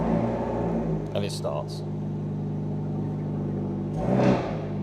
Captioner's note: revs engine